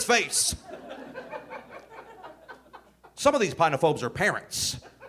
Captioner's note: audience laughing